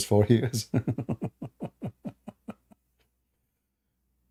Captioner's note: Ketawa